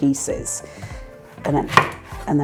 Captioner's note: chop chop chop